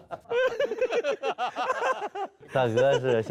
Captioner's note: hahahaha